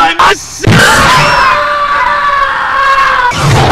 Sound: screams; thud

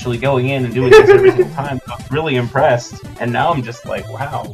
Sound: giggling

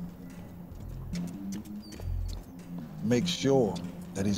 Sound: footsteps running

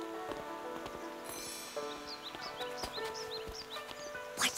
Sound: birds chirping

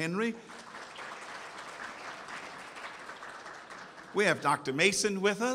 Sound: audience applauds

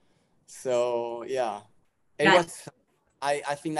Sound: mumbles

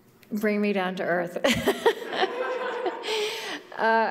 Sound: laughter

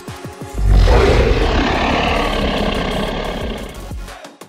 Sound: dinosaur roaring

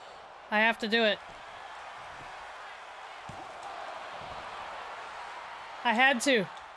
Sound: applause

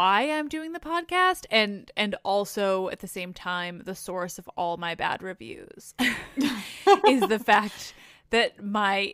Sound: laughs

